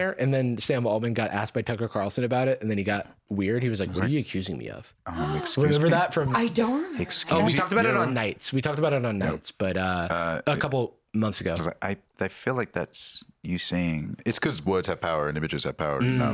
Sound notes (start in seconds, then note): 5.1 gasps